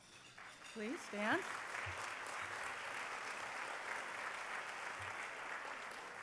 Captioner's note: applause